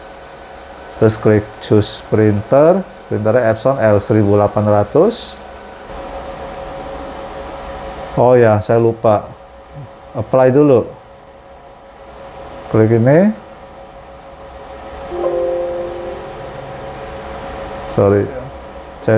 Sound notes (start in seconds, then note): 0.0 clicking noise; 12.0 clicking noise; 15.1 error noise; 17.1 clicking noise